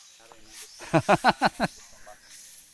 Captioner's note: laughs